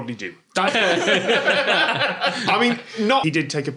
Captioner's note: everyone laughs